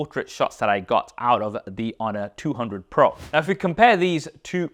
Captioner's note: air whooshes